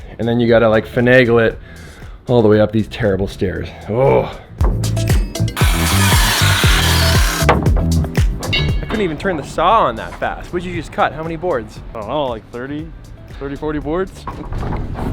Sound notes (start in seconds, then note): 3.9 frustrated groan; 5.5 saw squeals and grinds